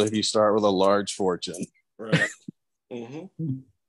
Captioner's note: laughs